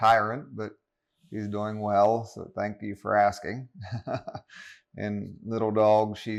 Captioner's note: laughs